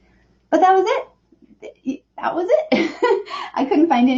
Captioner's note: chuckles